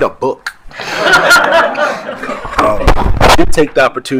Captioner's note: attendees laughing